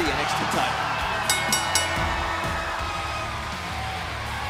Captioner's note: bell rings; cheers & applause